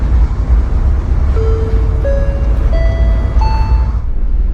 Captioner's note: chime Sound